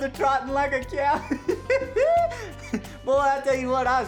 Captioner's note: laughter